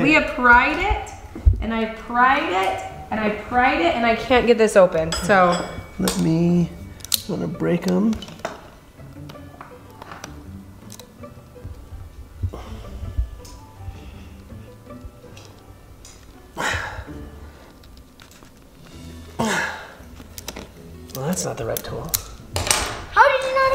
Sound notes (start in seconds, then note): 9.4 gentle music; 16.9 dad straining; 22.8 tool clattering